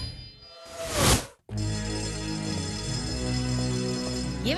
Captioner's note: school bell ringing